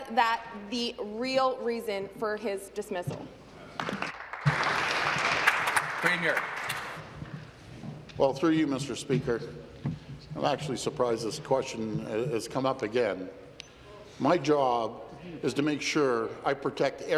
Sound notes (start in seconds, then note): 6.1 applause